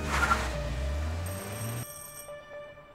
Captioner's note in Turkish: Zil Çalıyor